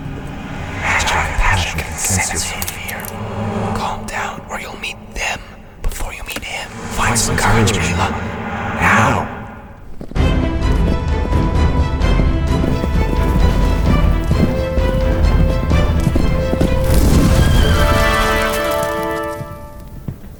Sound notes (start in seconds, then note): 9.8 hooves clop; 10.3 dramatic orchestral music; 17.6 horse neighs